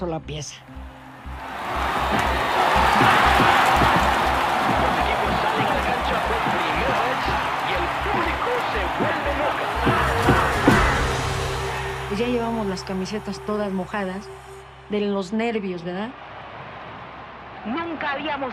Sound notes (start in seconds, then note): 1.2 crowd cheers; 10.3 thudding, cheering